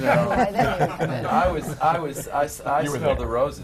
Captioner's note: laughter